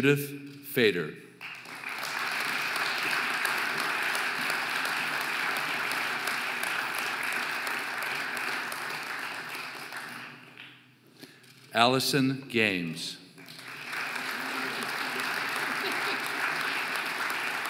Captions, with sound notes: Judith Feder (audience applauding) Alison Games (audience applauding)